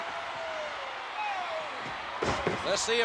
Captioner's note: spectators cheering